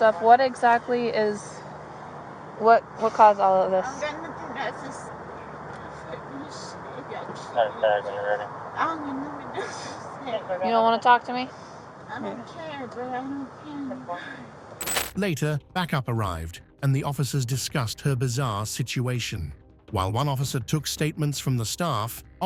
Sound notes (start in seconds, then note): 7.5 radio chatter